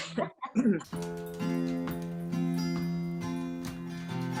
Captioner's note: chuckles